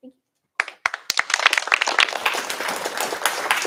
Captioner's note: applause